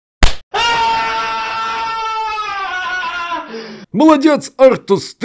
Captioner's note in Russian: снова истошные вопли